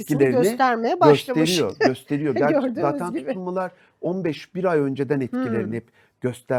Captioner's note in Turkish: kahkaha